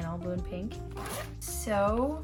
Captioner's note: zip